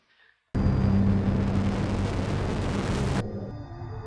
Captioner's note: engine rumble